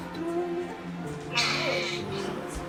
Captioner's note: baby scream